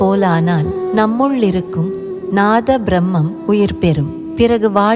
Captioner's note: pure transcendental cosmic sound